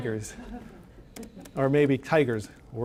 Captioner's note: scattered audience chuckling